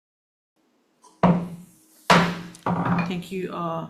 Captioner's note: gavel bangs